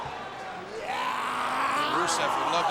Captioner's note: Rusev yelling